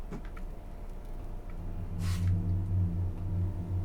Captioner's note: ship creaks